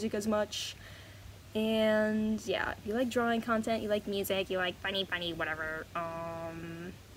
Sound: voice slowly becomes more goofy

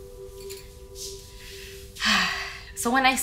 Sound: sighs

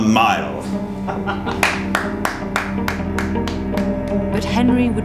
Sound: Henry laughs and claps

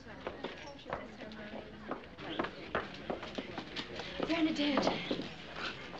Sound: chattering Continues

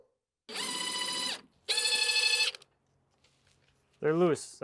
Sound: drill whirring

